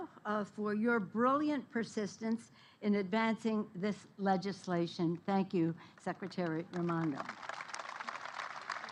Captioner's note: applause